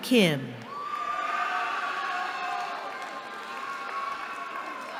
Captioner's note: cheering